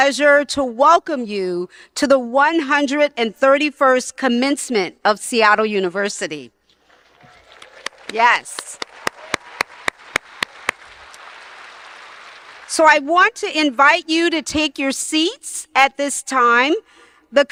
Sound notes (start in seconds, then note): 7.0 audience applauding; 7.1 applauds